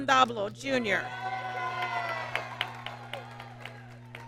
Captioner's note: applause